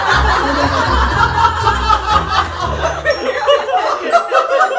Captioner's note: crowd laughs loudly